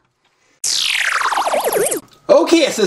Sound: laser whirring

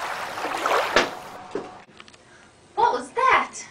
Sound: ocean soundscape

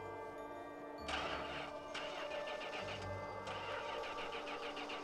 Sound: car engine sputtering

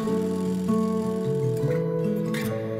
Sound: film reel rolling; soft acoustic music

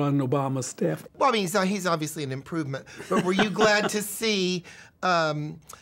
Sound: laughs

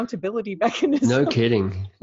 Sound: laughing

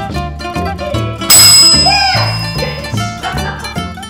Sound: laughter

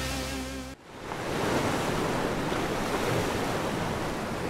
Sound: waves crash

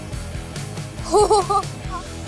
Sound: laughing

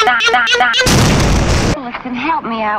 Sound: loud, predictable explosion

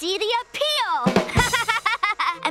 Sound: laughing

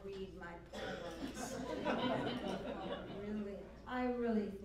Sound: laughter

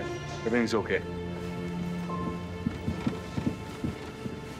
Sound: crowd tittering

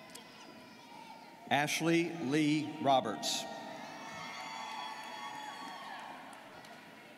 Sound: students cheering

